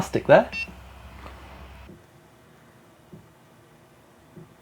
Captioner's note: machine beeps